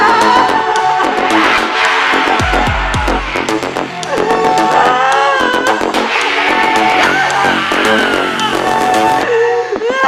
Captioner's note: screams and cries